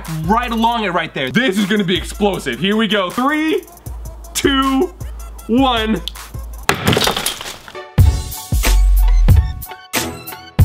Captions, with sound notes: right along it right there. This is gonna be explosive. Here we go, three, two, one (smash) (shattering) (dramatic music)